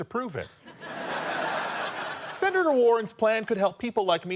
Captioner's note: audience laughter